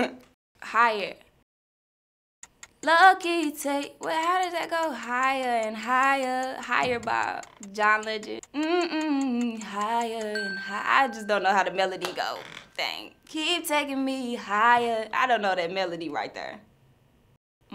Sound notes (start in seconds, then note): 8.8 hums; 10.2 bell dings